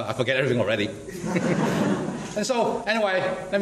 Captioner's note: laughs